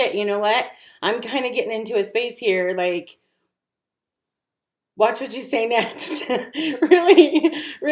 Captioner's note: laughs